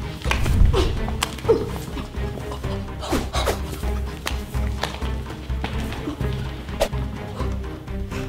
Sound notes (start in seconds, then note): 0.7 grunts